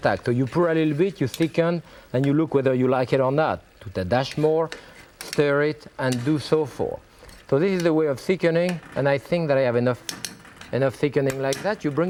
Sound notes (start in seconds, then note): 4.5 spoon clicks; 10.2 spoon clicking